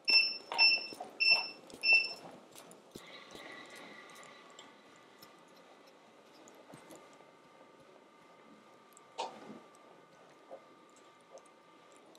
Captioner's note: bicycle bell